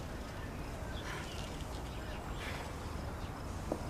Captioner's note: sighs